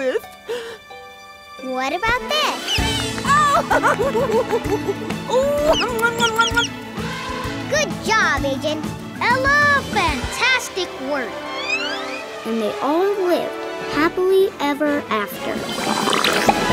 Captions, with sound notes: What about this? [giggling] [kissing sounds] Good job, agents! Elafantastic work! And they all lived happily ever after.